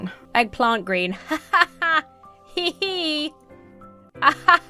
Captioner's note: laughs overly enthusiastically